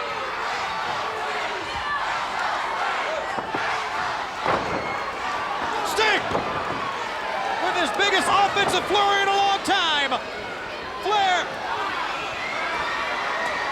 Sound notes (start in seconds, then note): 4.4 Ric thudding on ring